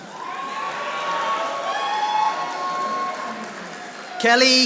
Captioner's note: audience applauding